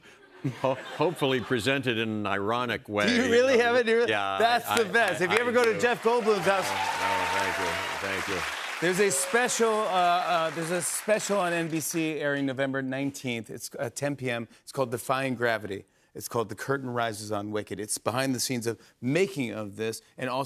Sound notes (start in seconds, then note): 4.7 cheers and applause